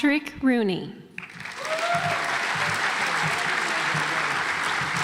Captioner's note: audience applauds